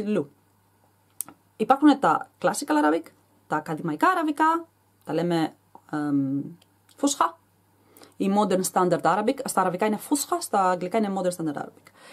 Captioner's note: in Arabic